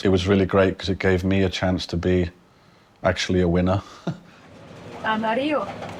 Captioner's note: chuckles